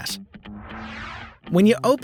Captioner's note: whooshing